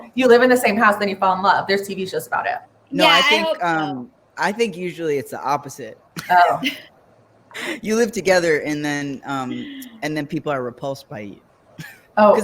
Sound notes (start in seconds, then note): 6.2 laughing